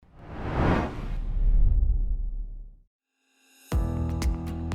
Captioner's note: air whooshing; upbeat music